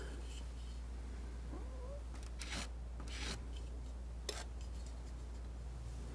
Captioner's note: scratching